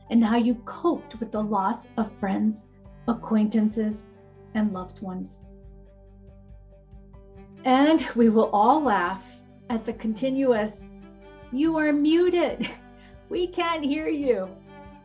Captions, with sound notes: and how you coped with the loss of friends, acquaintances and loved ones. And we will all laugh at the continuous. You are muted (chuckles). We can't hear you.